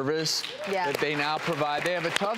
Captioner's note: applause